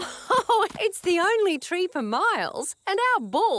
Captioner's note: laughs